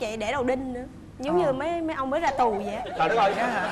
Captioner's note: laughing